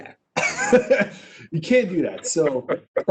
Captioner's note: laughs